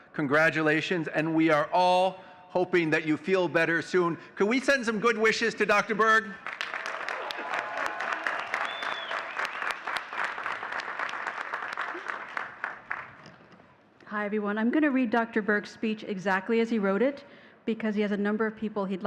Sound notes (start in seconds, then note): 6.4 audience cheering and clapping